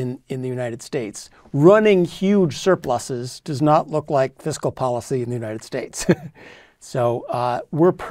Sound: laugh

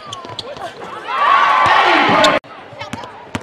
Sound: cheering and applause

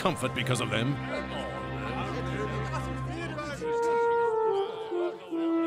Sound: men talking amongst themselves

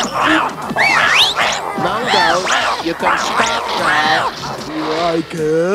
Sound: whistle

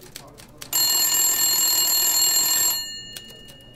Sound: phone rings

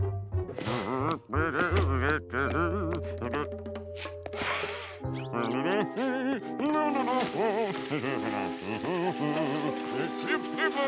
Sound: humming

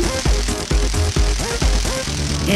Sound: crackling electricity

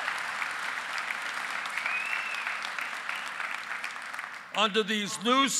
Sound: applause

